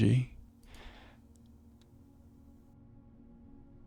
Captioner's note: sighs